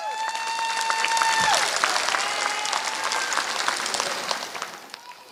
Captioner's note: applause